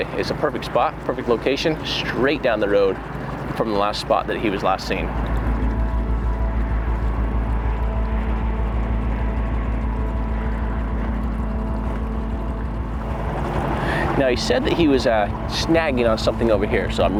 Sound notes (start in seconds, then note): 5.8 boat engine rumbling; 5.8 somber music continues